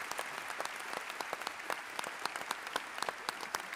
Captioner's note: applause